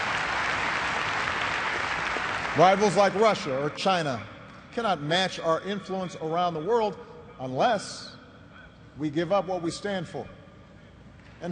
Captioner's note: applause